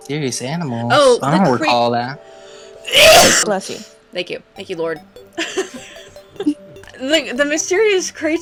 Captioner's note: sneeze; laughing